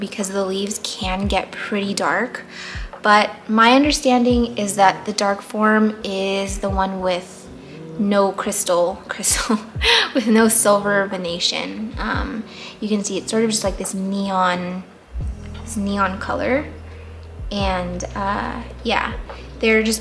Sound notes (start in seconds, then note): 8.6 laughs